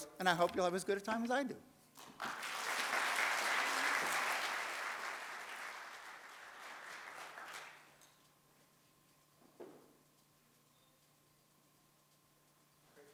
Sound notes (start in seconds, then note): 2.0 audience applauds